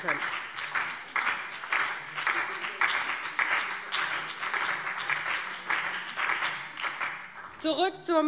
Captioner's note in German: Beifall DIE LINKE, BÜNDNIS 90/DIE GRÜNEN und SPD